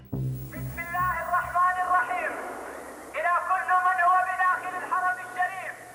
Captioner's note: speaking in Arabic